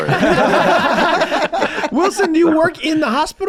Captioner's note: everyone laughs